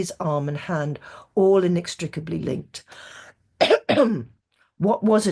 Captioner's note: clears throat